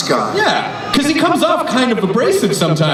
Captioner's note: voiceover